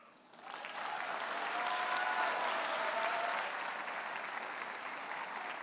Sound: audience cheers and applauds

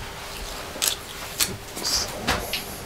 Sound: quietly

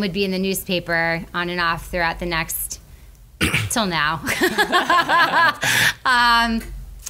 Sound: laughs

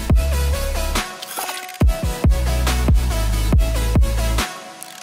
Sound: camera shutter

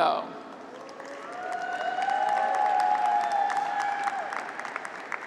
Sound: graduates cheer

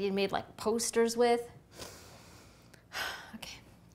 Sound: inhales deeply

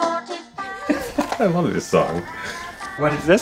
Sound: laughs

